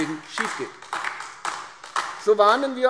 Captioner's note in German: Beifall AfD